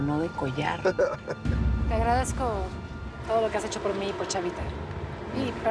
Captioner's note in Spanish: risas